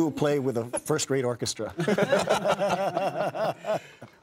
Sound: all laugh

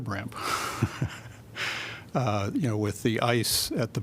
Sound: laughter

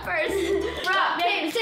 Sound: laughing

